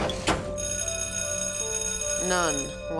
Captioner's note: school bell rings